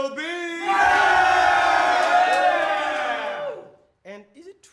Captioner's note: guys cheering